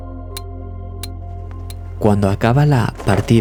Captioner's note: wind